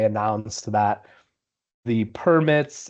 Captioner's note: none